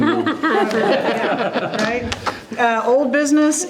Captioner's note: members laughing